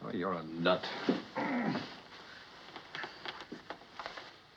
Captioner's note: groans